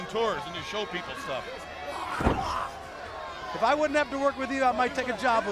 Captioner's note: crowd chatter